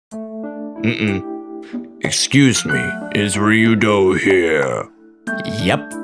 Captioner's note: clears throat